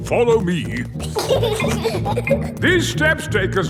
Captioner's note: giggling